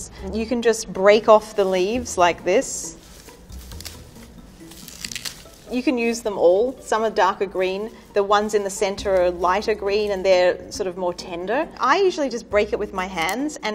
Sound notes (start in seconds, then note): 4.6 chicory snapping off